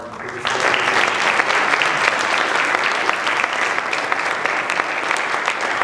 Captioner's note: applause drowns out speaker